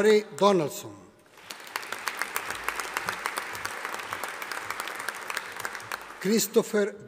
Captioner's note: audience applauding